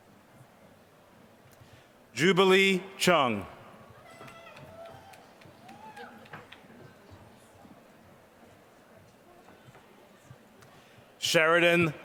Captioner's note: applause